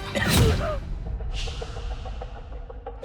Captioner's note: gasp